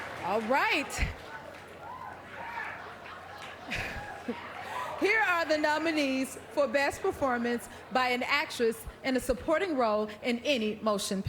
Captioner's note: applause